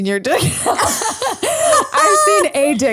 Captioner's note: laughs